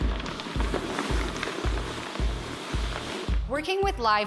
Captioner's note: dragging